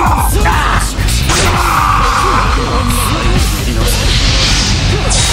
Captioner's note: KO Scream